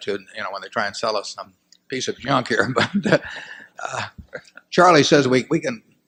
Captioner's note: laughter